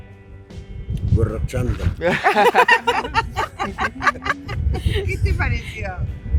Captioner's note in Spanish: risas